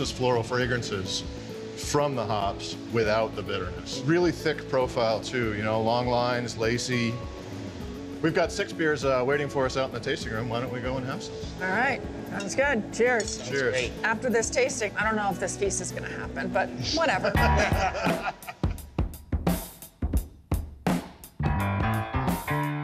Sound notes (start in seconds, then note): 17.2 laughter